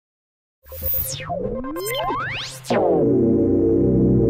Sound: electronic beeping; gentle electronic music

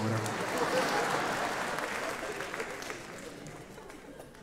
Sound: audience applauding

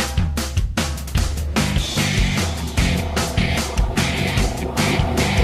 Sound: Halo Ghost sound in the distance

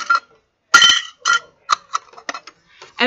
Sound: sound of adjusting metal thing

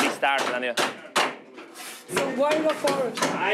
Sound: hammer knocking

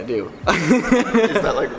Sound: laughs

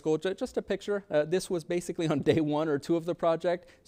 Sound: chuckles

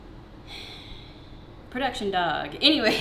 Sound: sighs

